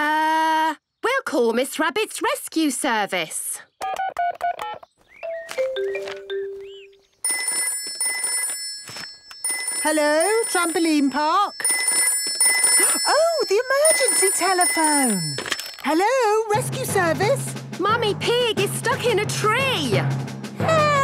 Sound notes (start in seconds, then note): 5.2 phone beeping; 7.3 phone ringing; 12.1 phone ringing